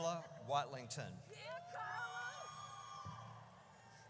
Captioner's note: audience cheers